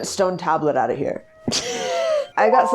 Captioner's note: laughs